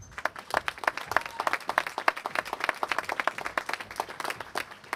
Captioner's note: applause